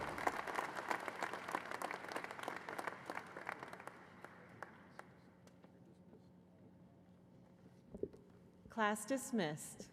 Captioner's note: applause